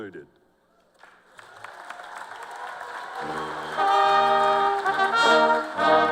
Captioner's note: cheers and applause